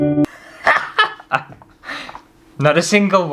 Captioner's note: sad Music; hysterical Laughter